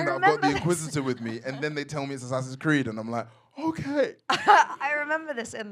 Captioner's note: in nervous voice